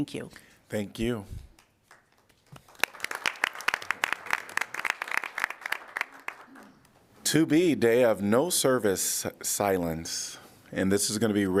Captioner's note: applause